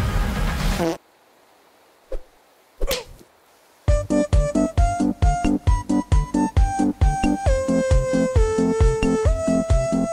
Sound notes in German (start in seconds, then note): 0.7 Furzgeräusch; 2.5 Ächzen; 3.9 Vergnügte Musik